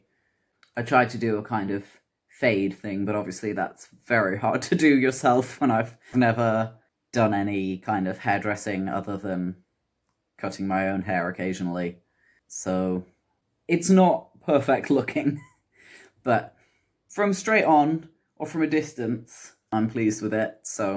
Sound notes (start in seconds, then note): 15.2 laugh